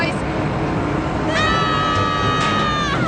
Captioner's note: all yelling